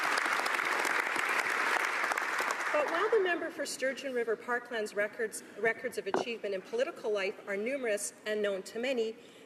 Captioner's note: applause